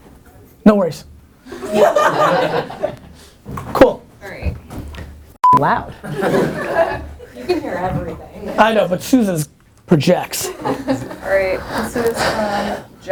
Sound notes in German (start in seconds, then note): 1.6 Lachen; 3.9 Voice-over; 6.0 Lachen; 7.5 Voice-over; 11.6 Gary seufzt